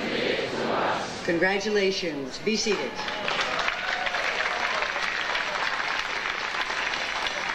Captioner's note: audience applauding